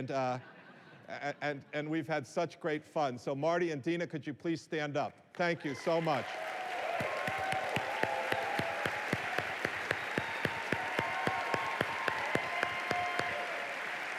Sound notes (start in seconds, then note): 0.1 laughter; 6.4 applause